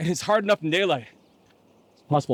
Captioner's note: none